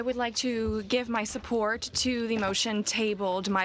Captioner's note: speaking French